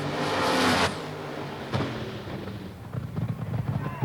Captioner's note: engine roars